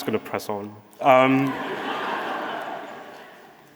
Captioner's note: audience laughing